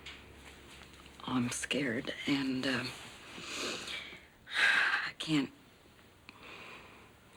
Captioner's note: exhales